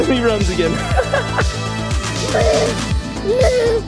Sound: laughing

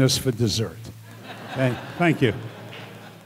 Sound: audience laughter

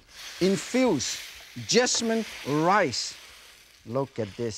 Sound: mushrooms sizzling

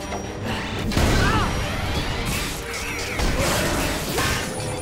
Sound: grunting

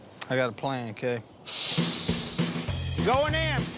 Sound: hissing

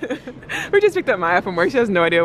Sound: they laugh

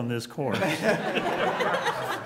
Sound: laughter

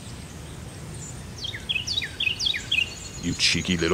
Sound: wren singing loudly

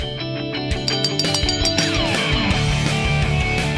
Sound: bell ringing

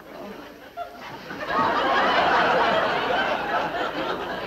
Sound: laughter

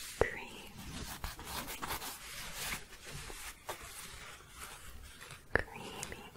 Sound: scratching and shuffling

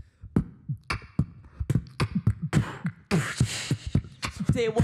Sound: mouthing percussion and creating a syncopated rap beat; rappin

